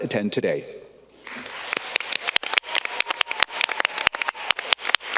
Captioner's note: audience clapping